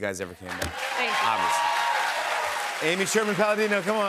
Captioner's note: cheers and applause